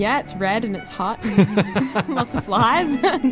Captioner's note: both laughing